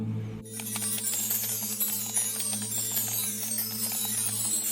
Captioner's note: chimes ringing